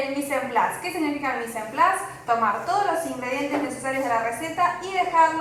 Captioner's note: french